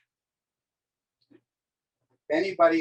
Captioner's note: silence